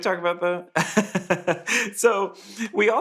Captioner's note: laughing